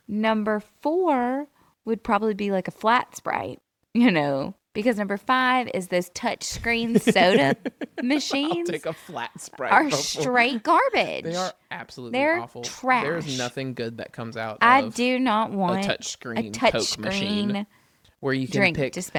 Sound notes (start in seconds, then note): 6.7 laughs